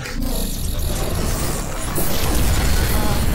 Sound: arcane whooshing noises

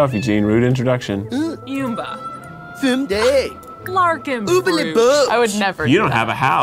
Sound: characters speaking Simlish

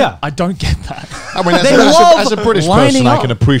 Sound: laughing

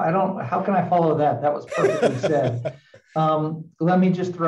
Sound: laughs

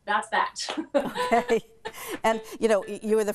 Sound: laughs

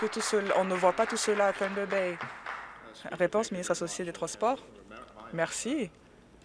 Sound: applause

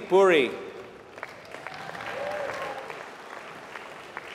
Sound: applause

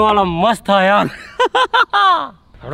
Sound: laughing

